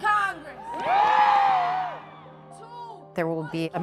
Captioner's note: crowd cheering